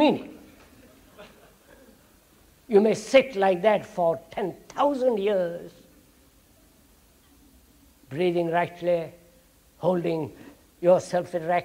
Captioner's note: laughter